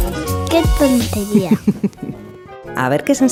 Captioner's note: laughs